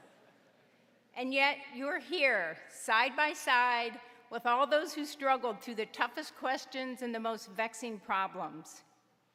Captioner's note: laughter